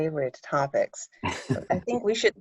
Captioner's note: interviewer laughing